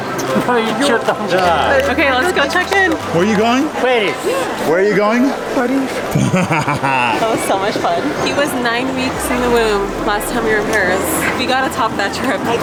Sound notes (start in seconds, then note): 0.8 grandpa speaking Russian; 5.8 laughing